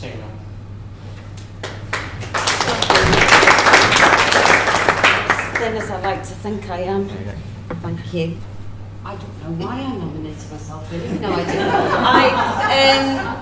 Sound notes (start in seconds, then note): 1.6 applause; 11.0 laughter